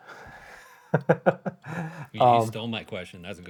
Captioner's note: laughs